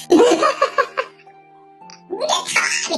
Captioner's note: laughs